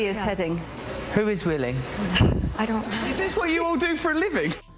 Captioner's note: laughs